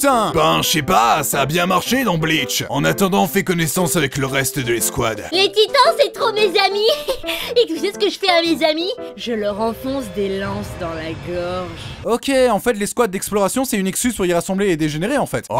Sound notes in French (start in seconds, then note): 6.8 gloussement; 9.0 voix de psychopathe